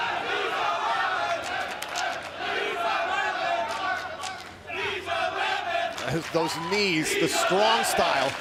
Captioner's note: fans chanting